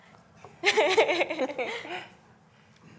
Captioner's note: laughing